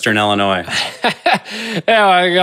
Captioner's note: laughing